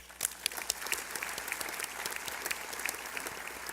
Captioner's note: applause